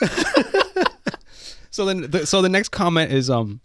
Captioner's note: laughing